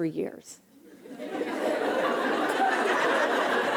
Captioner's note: laughter